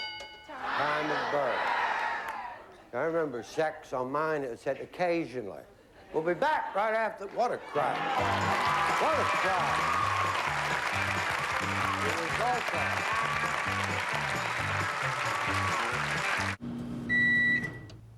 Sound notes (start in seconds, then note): 9.8 cheers and applause; 11.5 theme music plays